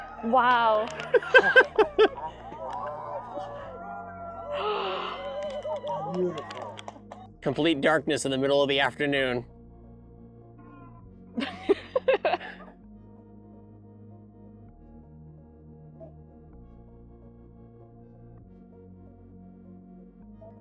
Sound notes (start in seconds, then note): 0.6 laughing; 4.5 gasp; 11.4 giggles